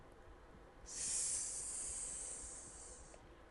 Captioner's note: hisses